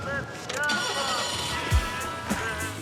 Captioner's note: engine turning over; hip-hop beat playing